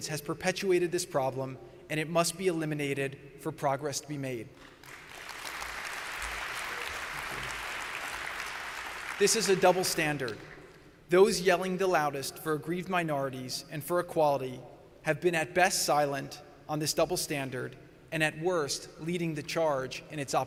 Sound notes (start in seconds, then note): 6.7 applause